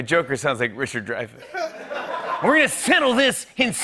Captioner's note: laughter